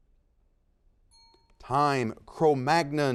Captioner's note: bell rings